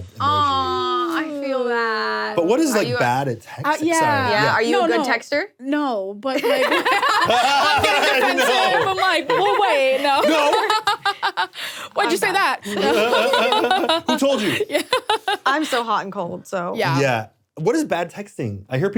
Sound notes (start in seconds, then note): 6.4 people laughing; 12.6 laughs